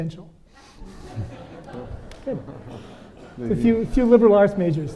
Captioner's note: audience laughing